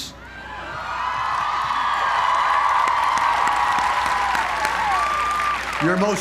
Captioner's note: applause